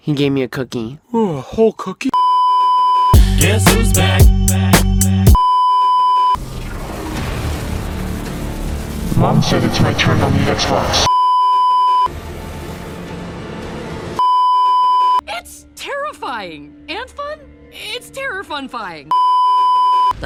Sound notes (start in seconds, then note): 5.3 beeeeeep; 6.3 electrical fx; 11.0 beeeeeep; 19.1 beeeeeep